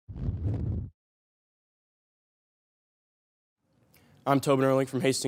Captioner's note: silent; whoosh